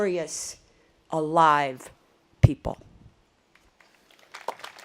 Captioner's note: audience applause